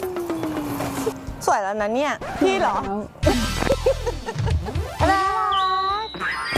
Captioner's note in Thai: เสียงหัวเราะ